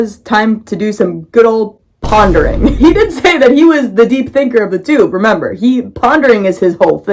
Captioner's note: boom